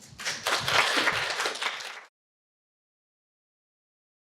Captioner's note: audience clapping